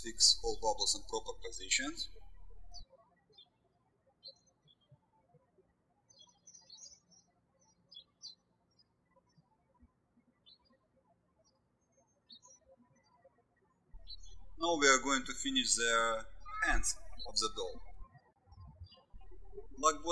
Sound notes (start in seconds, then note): 2.9 birds chirping